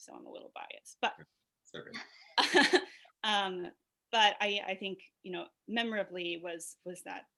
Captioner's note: laughs